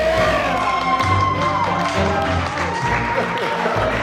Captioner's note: cheers and applause